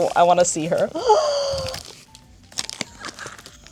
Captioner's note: gasp